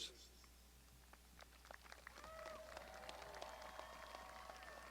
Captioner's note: crowd applauding